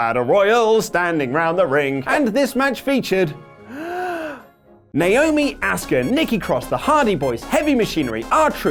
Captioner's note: deep breath